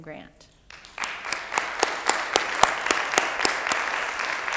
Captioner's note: audience applauds